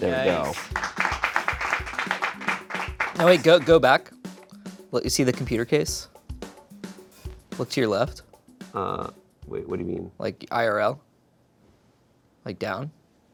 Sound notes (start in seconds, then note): 1.9 friends clap